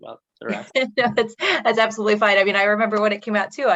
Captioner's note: laughs